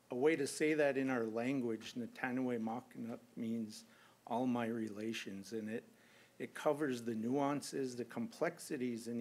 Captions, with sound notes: A way to say that in our language-- [NON-ENGLISH SPEECH]---- means, all my relations. And it covers the nuances, the complexities